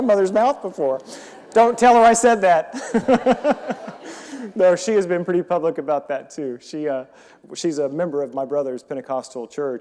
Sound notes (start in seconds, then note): 2.7 audience laughing